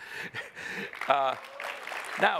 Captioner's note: applause